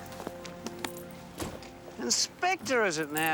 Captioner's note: car door thuds